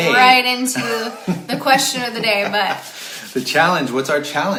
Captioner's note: chuckling